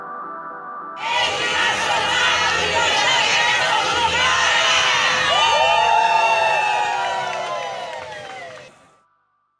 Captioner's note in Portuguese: Rede Nacional de Bibliotecas Comunitárias - Aplausos